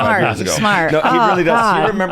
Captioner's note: laughs